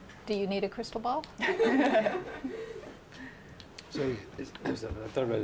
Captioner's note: laughter